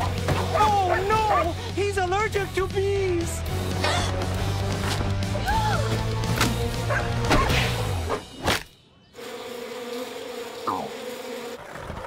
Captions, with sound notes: Oh, no, he's allergic to bees! [gasping] [gasping] [barking] [buzzing]